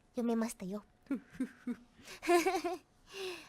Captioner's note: evil laugh